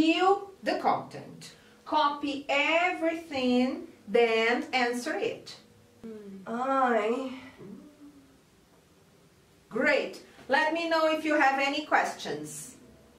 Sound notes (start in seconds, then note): 6.0 groans